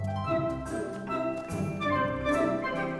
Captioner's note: footsteps